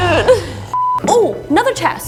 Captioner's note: beep